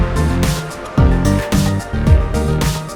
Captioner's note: heartbeat